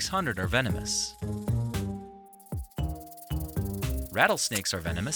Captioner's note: light music; snake rattling